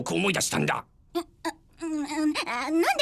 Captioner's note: sighs